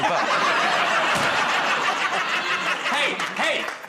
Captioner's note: laughter